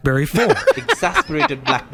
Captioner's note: laughing